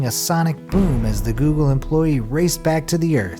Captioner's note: sonic boom